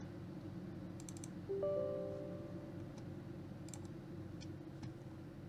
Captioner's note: Windows prompt